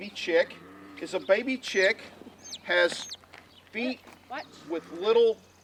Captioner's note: chick chirps